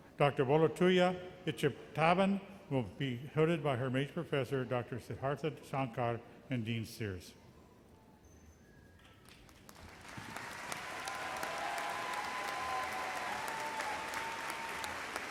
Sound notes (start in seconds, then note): 9.4 audience applauds